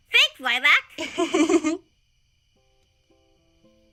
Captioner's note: Lilac giggles